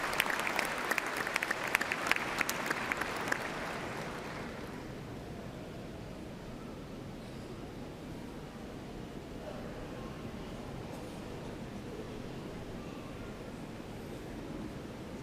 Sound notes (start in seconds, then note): 2.8 applause